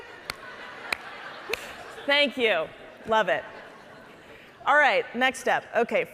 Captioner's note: audience chuckling